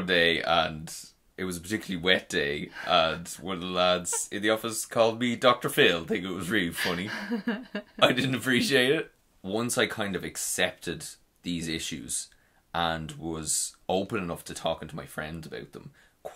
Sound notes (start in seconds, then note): 6.7 laughing